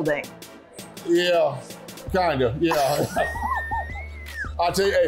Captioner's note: laughter